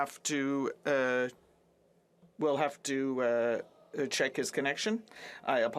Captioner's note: speaking French